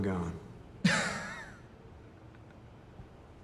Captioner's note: laughing